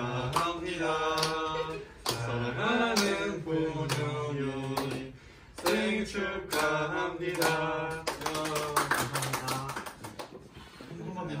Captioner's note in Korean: 박수